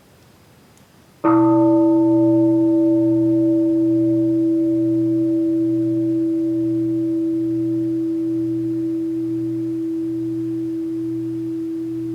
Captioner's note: the bell is invited to sound